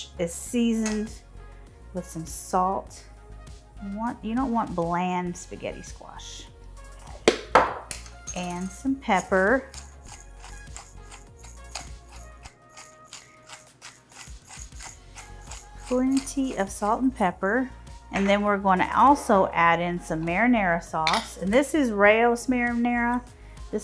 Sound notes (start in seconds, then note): 9.1 pepper grinder crackling